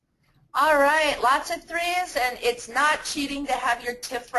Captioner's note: voiceover